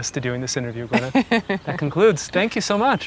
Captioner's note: Gwyneth chuckling